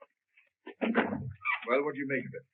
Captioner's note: door thuds